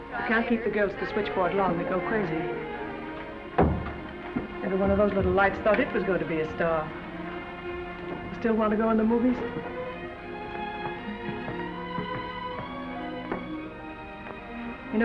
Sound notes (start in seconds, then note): 3.6 door closes; 11.1 melancholy music